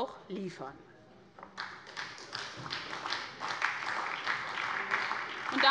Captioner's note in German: Beifall bei der SPD